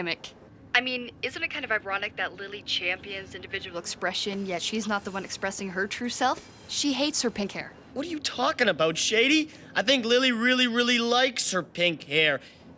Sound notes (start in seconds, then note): none